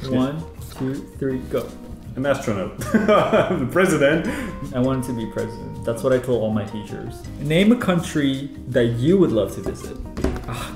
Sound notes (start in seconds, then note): 2.8 laughs